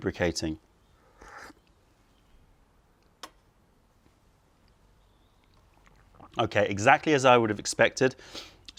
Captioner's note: sips tea